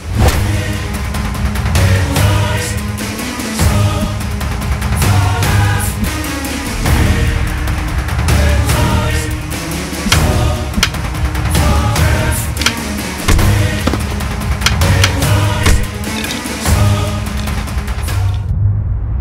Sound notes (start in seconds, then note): 0.4 epic action music; 11.5 sticks clattering; 12.5 thudding; 16.1 epic adventure music; 18.9 music slows